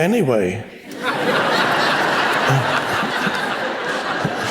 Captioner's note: laughter